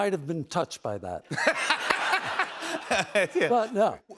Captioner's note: laughter